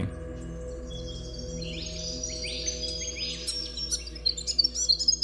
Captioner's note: birds singing